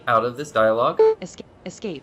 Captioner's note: beep